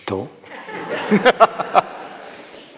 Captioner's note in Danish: mwahaha